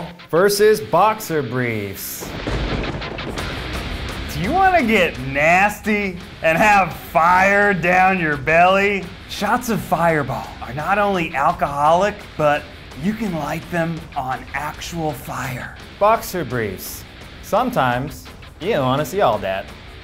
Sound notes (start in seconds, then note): 2.1 thunder cracks; 2.4 rock music